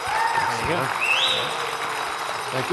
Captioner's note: applause